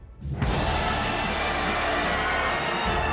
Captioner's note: huge applause